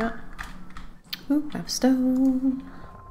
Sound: none

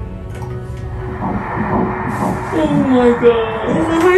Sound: heartbeat

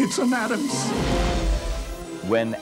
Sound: explosive noise and music

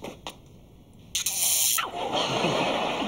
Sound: buzzing

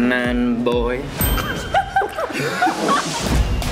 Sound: laughter

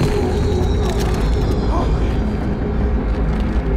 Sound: dramatic groaning; walls rumbling; men gasping

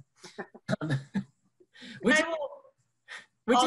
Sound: laughs

